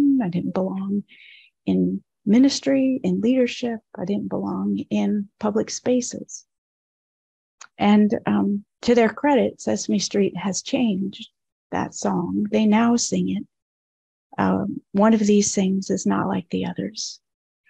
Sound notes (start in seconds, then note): none